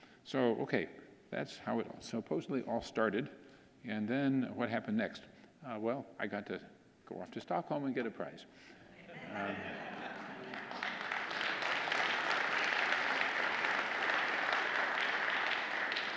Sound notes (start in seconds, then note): 9.1 audience laughing; 9.3 audience applauding